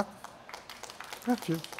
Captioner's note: clapping